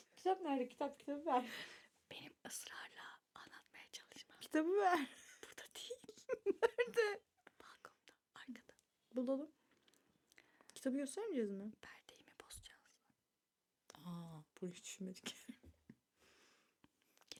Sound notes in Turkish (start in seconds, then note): 5.9 kahkaha